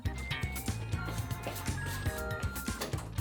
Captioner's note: oven timer goes off🔔